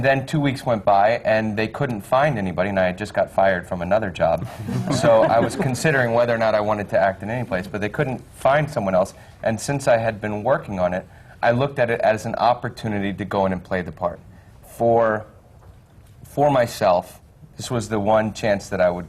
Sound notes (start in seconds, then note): 4.4 laughter